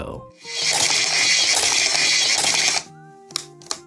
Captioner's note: machine buzzing